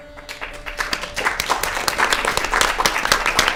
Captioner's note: applause